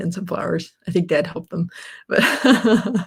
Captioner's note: laughs